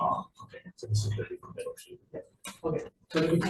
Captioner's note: group chattering